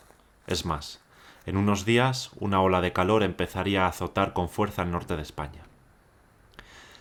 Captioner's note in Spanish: Voz en off